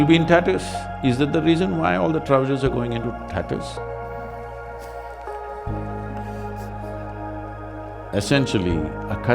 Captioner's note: laughs